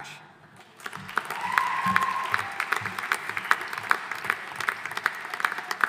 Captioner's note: audience applauding